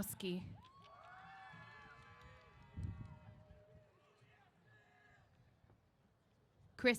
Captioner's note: cheers